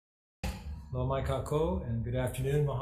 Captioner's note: speaking in foreign language